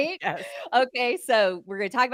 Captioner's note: both chuckling